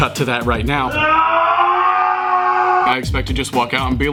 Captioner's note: groans loudly